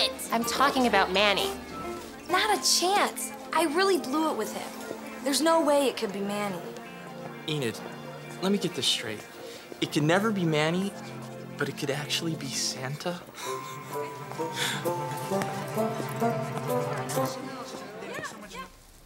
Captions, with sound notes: I'm talking about Manny. Not a chance. I really blew it with him. There's no way it could be Manny. Enid. Let me get this straight. It could never be Manny, but it could actually be Santa? [chuckles]